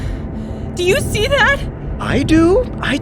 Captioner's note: panicked, breathless